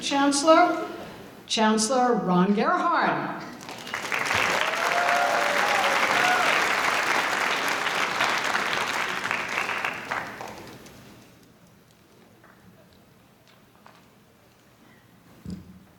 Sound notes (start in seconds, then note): 3.5 audience applauding